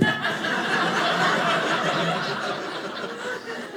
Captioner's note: audience laughing